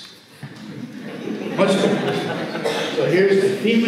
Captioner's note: audience laughs